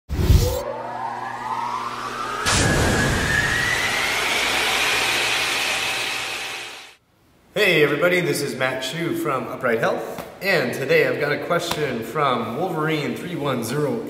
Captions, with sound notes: (logo whooshing) - Hey everybody, this is Matt Hsu from Upright Health. And today I've got a question from Wolverine31088.